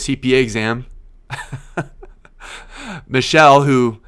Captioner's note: laughs